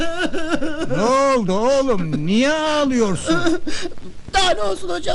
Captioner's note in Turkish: kahkaha